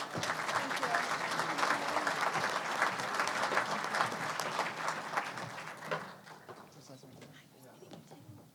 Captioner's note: applause